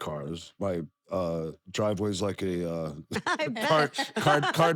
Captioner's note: laugh